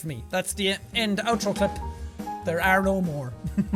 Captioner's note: chuckles